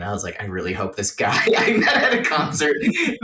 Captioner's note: laughing